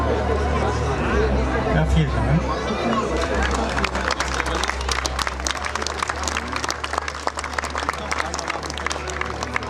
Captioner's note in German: Applaus